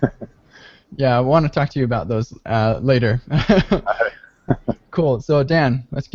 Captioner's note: laughs